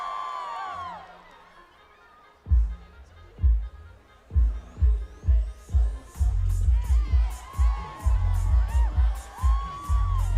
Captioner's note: applause